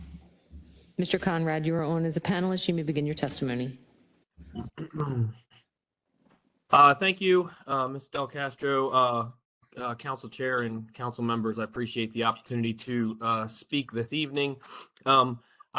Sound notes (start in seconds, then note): 4.5 cough